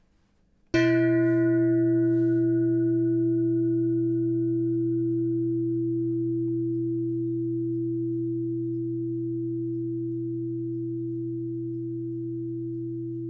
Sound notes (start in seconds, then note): 2.5 bong